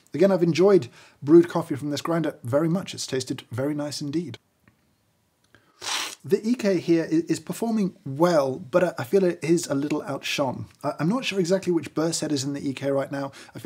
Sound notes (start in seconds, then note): 5.8 slurping